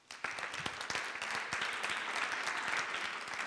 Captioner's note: all applauding